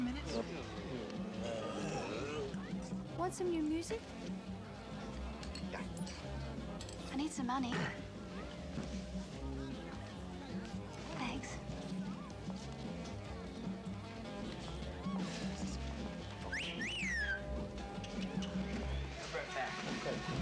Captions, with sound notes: WANT SOME NEW MUSIC? YEAH. I NEED SOME MONEY. THANKS. [WOLF WHISTLE] I'LL BE RIGHT BACK.